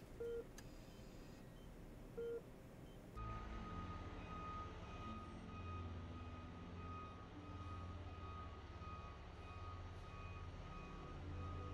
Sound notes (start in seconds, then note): 3.7 truck beeps